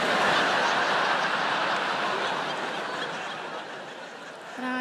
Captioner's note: audience laughing